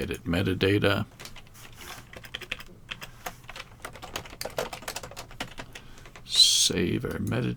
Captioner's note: keys clicking